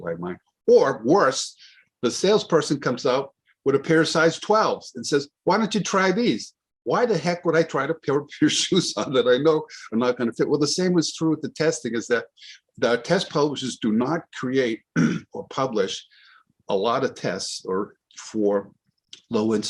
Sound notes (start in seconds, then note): 14.9 clears throat